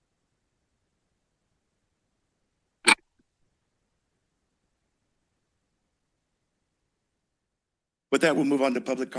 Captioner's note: silence